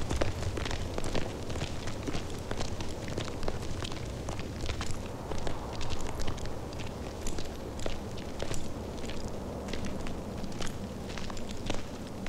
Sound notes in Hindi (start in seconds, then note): none